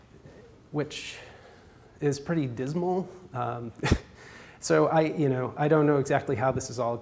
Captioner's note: laughs